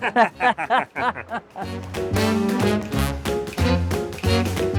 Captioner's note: laughter